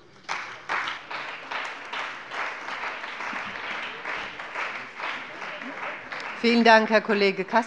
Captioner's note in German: Beifall bei der CDU und bei dem BÜNDNIS 90/DIE GRÜNEN